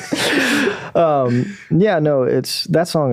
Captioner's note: laughing